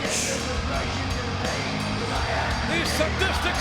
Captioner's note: audience cheers